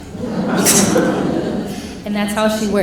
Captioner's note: laughing